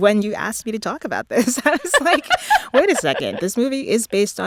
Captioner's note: laughter